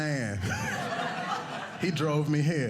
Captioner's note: audience laughing